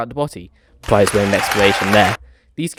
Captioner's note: sarcastically